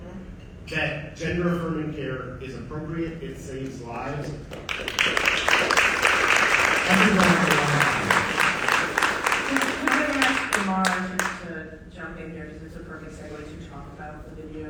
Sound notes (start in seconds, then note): 4.5 audience applauding